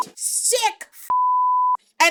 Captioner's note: beep